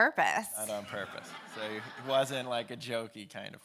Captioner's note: audience laughing